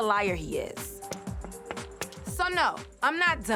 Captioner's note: knocking